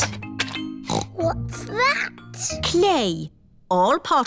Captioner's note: snorts